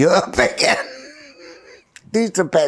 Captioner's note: laughing